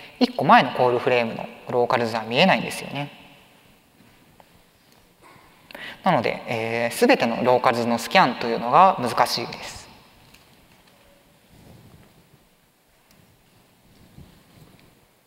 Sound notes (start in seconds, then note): 10.7 silence